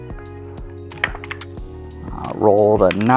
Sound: dice clattering

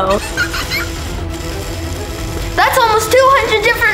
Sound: giggling

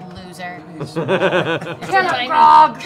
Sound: laughing

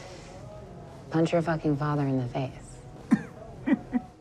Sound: stifled laugh

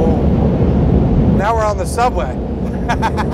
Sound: laughs

